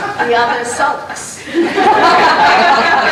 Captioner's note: laughter